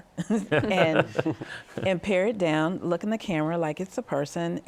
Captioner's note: laughs